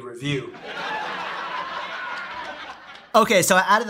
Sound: audience laughing

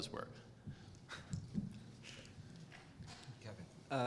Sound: laugh

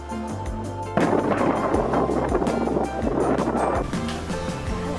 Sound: the sound of thunder just happened to be recorded

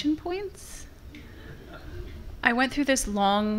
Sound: laughter from the audience

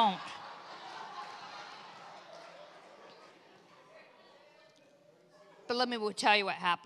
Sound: congregation laughs

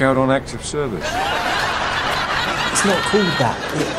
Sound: audience laughs

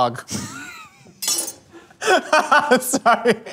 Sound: laughs

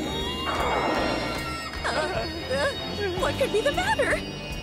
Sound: Latias squealing; James and Jessie whimper

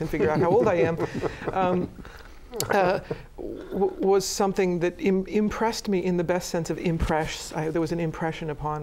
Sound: laughter

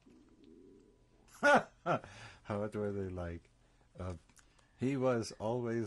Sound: laughs

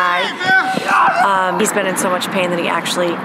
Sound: soccer players yelling

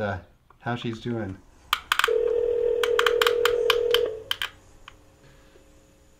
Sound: phone ringing

